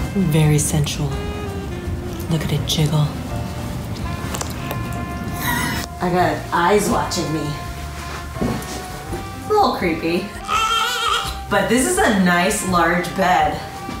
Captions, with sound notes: Very sensual, look at it jiggle. I got eyes watching me. Little creepy. (shouts) But this is a nice large bed.